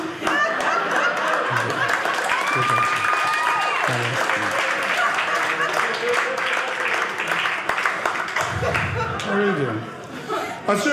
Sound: audience applauding

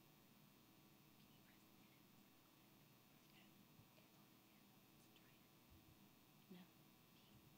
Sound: whispering

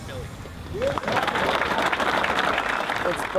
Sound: applause

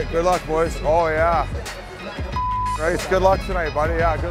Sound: beeps

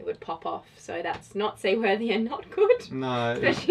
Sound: laughs

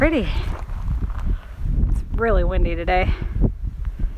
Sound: breathless

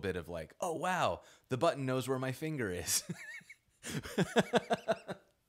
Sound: laughing

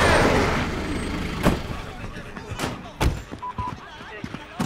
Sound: vehicle braking; car doors closing

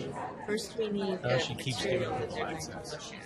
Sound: voiceover

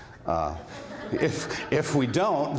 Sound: laughter

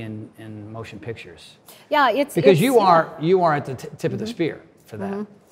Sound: none

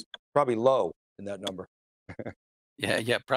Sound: chuckles

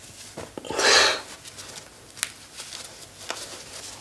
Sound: Blondy sighs

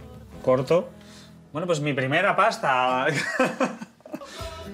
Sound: laughing

